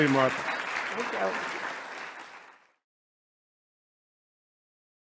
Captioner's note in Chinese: 掌聲